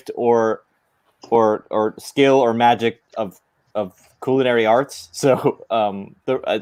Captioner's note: none